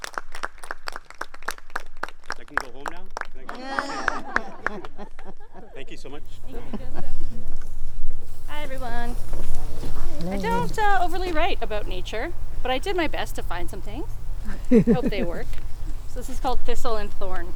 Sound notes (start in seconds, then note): 3.6 group laughter; 14.4 laughing